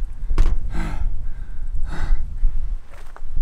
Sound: breathing heavily

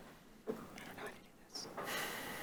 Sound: whispering

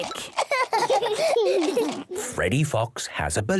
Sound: both laughing

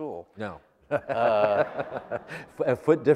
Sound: laughter

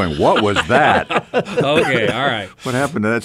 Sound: laughing

